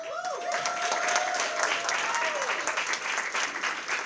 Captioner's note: applause